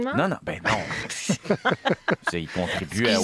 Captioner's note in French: rires